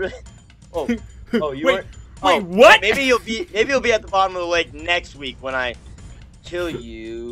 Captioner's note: laughs